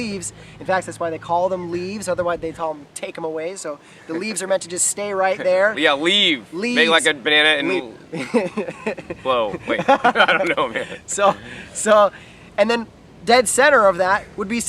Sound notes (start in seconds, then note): 7.6 laughs